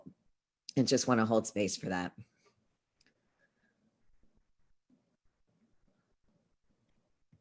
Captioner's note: moment of silence